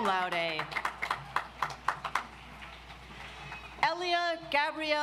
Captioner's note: audience applauds